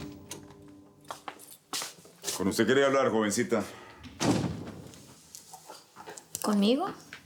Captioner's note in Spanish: Ruido en la puerta; Ruido al cerrar